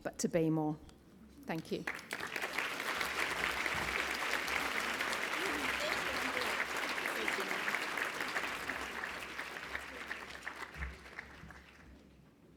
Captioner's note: applause